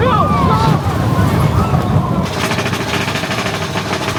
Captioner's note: water splashing; track clacking